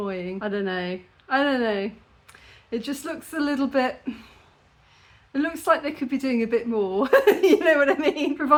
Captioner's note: laughing